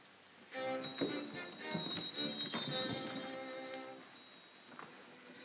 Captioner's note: ominous whimsical music; collar bells ringing